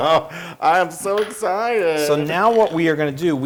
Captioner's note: laugh